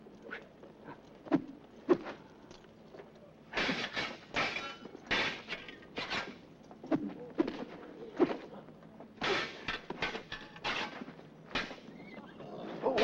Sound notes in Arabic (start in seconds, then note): 0.3 الأسلحة تنطلق في الهواء; 3.5 صوت رنين الأسلحة; 6.8 الأسلحة تنطلق في الهواء; 9.2 صوت رنين الأسلحة; 12.8 الحشد يلهث ويثرثر بحماس